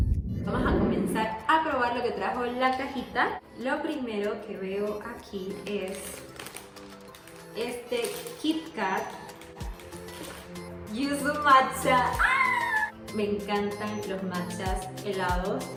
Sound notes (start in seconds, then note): 12.0 screms